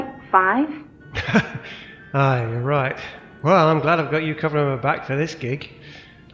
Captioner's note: laughs